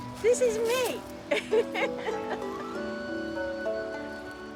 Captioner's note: laughs